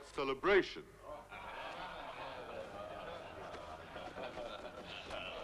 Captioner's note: crowd murmuring